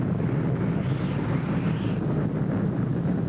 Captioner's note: loud winds